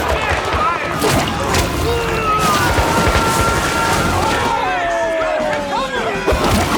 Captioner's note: gunshots popping; soldiers screaming